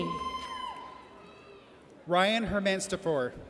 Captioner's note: audience cheers